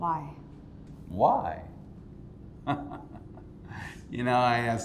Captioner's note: laughing